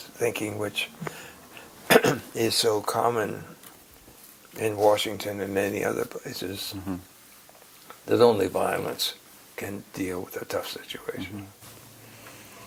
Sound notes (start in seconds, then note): 1.8 cough